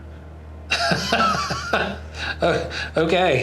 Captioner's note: laughs